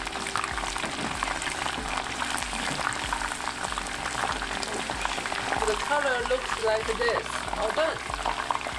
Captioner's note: frying oil